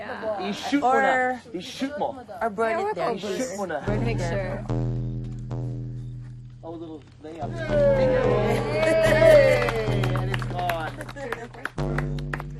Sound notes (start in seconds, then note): 3.9 tense music playing; 7.5 cheering